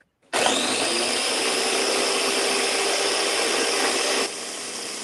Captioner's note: blender whirling